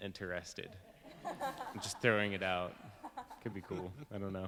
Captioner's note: laughing